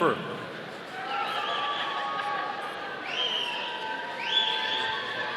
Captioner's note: audience cheering